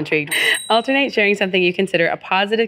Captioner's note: bell ring